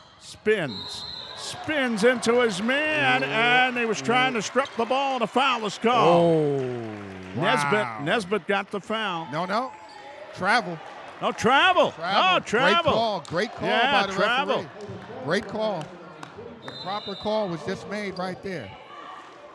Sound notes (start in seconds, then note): 6.2 cheering; 6.5 clapping